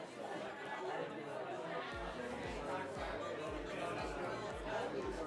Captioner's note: chatter